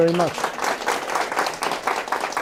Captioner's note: applause